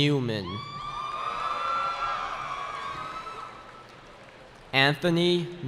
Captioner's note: cheering